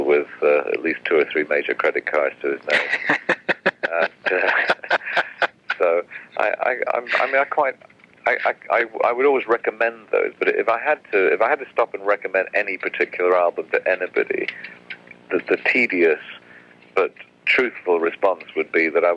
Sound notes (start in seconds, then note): 2.6 laughs